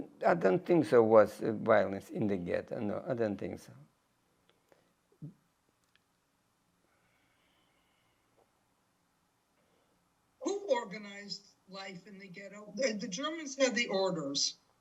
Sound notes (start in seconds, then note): 3.8 pauses 6 seconds